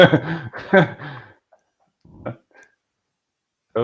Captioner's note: laughing